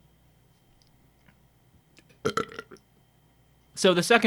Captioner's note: burping